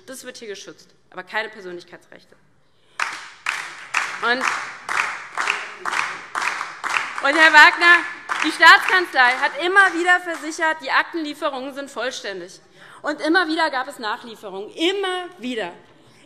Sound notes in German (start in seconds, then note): 2.9 Beifall DIE LINKE und SPD